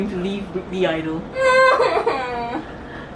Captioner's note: cries and blubbers everywhere